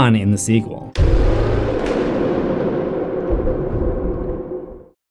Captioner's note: impact